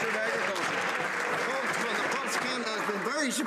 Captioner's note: some Applause